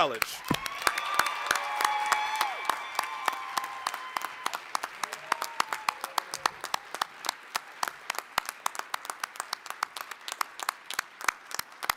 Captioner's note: applause, cheering